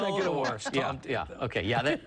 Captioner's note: laughter